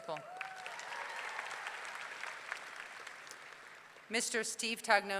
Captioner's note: audience clapping; audience cheering